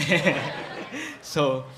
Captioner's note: laughter